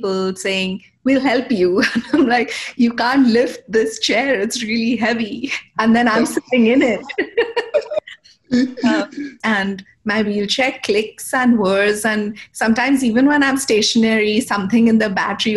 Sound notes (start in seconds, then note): 7.0 laughter